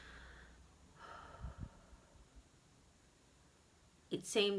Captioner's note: sighing